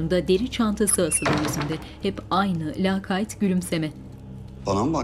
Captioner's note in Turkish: Kapı kapanma sesi